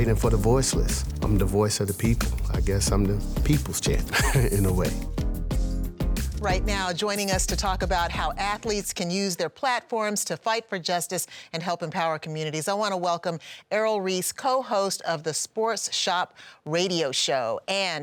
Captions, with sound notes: I'm fighting for the voiceless, I'm the voice of the people. I guess I'm the people's change [chuckles] in a way. [upbeat music] - Right now, joining us to talk about how athletes can use their platforms to fight for justice and help empower communities. I wanna welcome Errol Reese, co-host of The Sports Shop radio show,